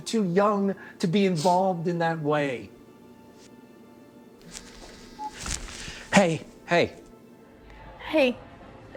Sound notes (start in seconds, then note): 4.8 phone buzzes